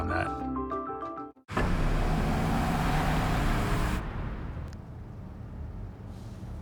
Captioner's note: SFX: Engine sound